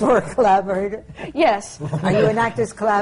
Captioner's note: laughter